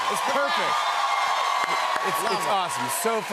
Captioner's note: cheers and applause